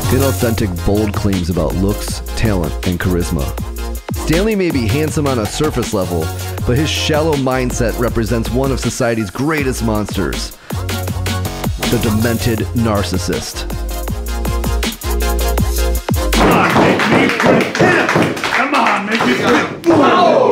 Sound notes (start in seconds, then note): 16.6 chanting